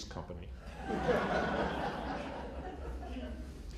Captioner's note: laughter